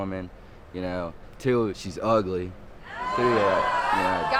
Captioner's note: audience exclaim